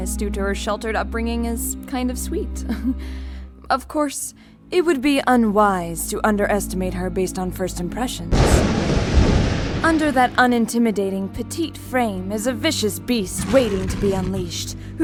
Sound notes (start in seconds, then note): 2.6 chuckle; 8.3 thunder crack